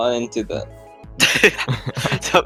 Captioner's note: laughter